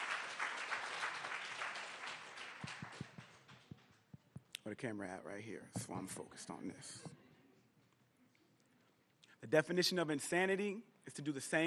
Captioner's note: applause